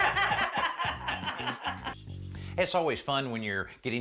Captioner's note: all laughing